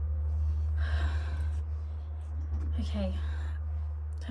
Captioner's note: Emma sighing